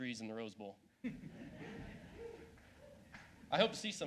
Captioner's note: laughs